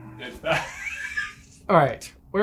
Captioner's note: laughs